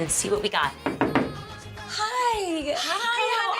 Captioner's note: knocking